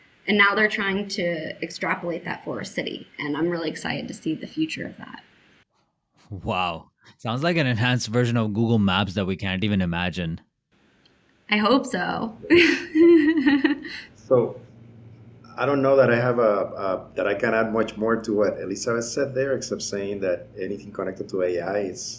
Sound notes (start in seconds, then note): 12.4 laughing